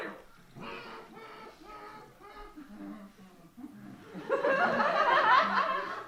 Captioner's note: Humming the Star Wars theme